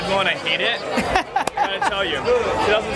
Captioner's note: laughter